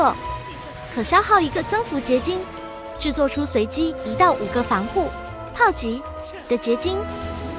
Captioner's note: cannon attack